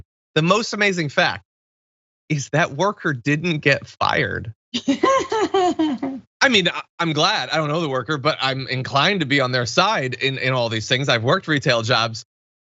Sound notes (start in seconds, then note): 4.8 laugh